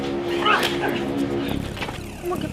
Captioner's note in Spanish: golpes